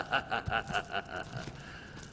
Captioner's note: metal ching